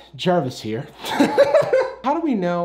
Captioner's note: laughs